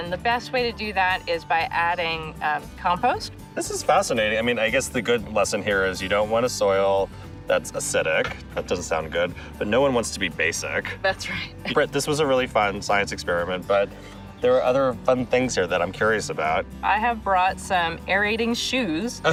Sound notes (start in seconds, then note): 10.4 laughs